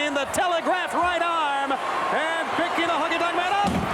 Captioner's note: applause